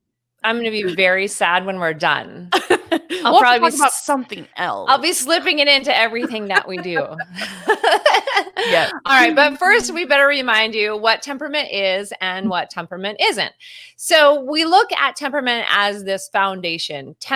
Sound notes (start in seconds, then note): 2.6 laughs; 7.5 both laughing